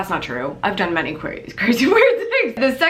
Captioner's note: laughs